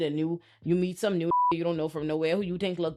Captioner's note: beep